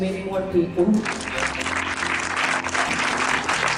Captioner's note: applause